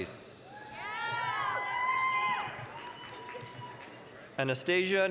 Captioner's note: applause, cheering